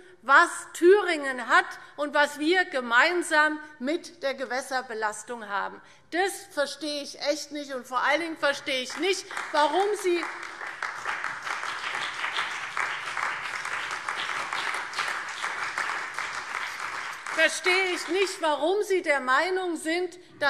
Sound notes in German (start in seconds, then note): 8.9 Beifall CDU, BÜNDNIS 90/DIE GRÜNEN, AfD und Freie Demokraten